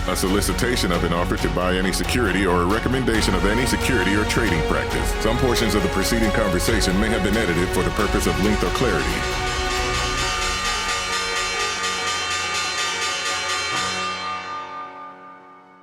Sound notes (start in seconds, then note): 9.7 ringing bell